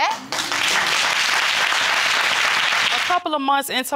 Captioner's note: audience applauding